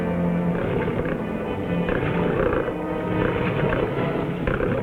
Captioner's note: creature growling nearby